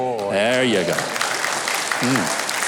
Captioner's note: audience clapping